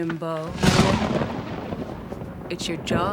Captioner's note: thunder crashes